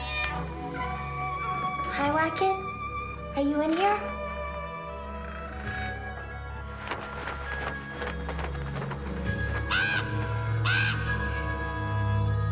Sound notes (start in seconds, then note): 0.0 cat screeching; 6.9 wings flapping; 9.8 raven cawing